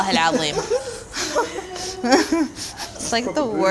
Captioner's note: everyone laughs